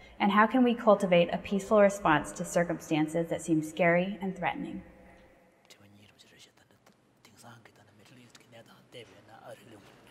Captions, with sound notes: And how can we cultivate a peaceful response to circumstances that seems scary and threatening. [SPEAKING FOREIGN LANGUAGE]